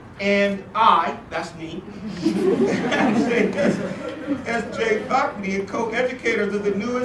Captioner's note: laugh